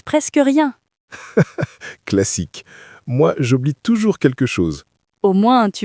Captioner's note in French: rire